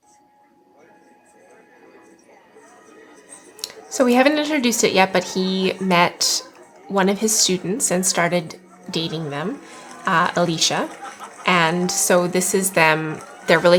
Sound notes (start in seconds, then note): 2.0 crowd chatting